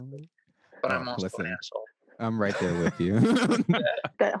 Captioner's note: laughs